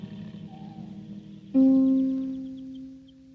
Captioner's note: tires screech; birds chirping